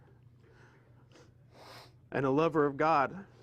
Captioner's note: snif